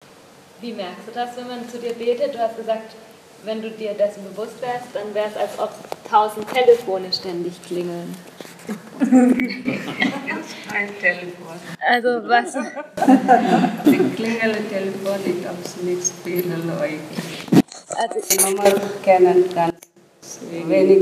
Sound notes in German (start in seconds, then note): 19.3 lachen